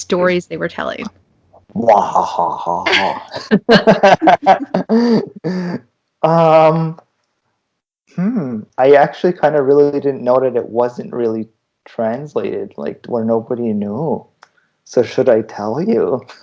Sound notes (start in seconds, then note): 4.6 evil laughter